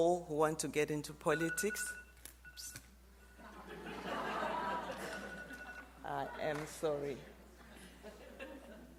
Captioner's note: phone rings